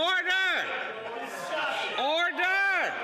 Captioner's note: yelling